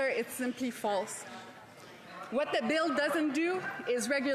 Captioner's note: speaking French